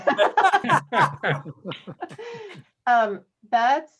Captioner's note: laughter